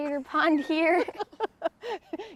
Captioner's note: both laugh